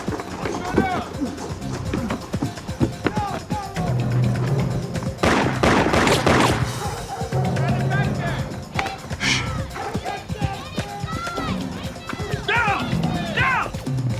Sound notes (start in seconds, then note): 2.3 indistinct chatter; 5.2 gun firing; 6.9 indistinct chatter; 8.3 dogs barking; 9.5 indistinct chatter